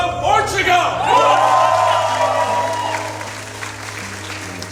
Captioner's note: applause